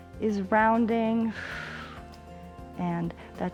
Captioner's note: exhales